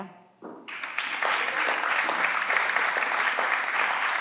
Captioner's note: everyone claps